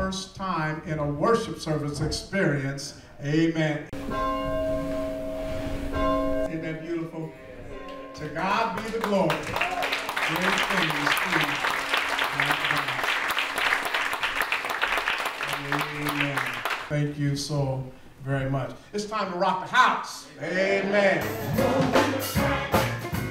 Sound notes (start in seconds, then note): 6.7 bell tolling; 15.9 applause